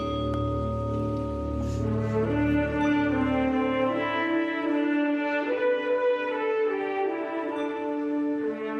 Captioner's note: bell tolling